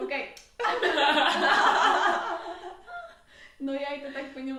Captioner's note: feminine laughter